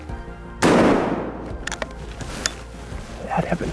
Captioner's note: gunshot